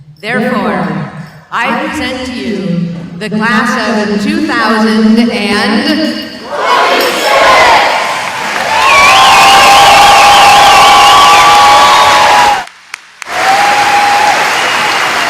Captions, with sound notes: Therefore, I present to you the class of 2000 and... WALLEGIE STRIK! [cheering]